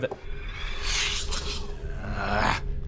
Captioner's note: suspicious whoosh